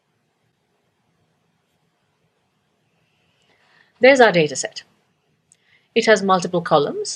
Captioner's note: pause